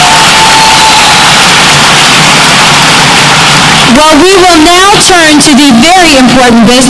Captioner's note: applause